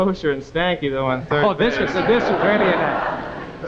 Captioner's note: audience laughing